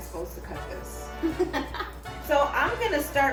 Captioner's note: laughs